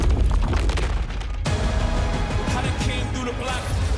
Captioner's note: crunching